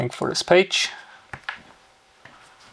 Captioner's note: keyboard clicking